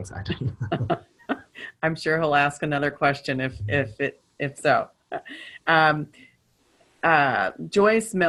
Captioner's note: chuckling